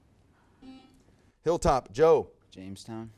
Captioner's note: buzzer buzzes